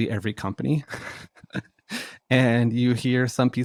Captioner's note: laughs